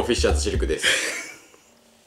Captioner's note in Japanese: 笑い声